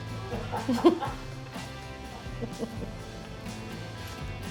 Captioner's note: cameraman laughing